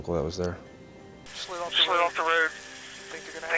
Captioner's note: radio